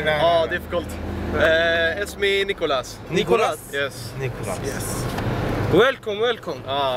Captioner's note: Arabic